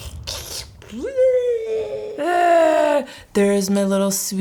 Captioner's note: growls